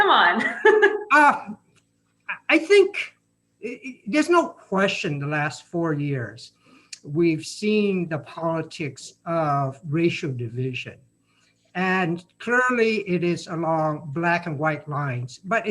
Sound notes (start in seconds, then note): 0.2 chuckling